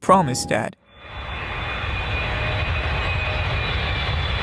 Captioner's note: engine roaring